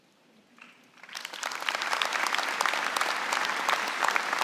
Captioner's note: applause